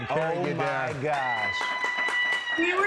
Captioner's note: cheers and applause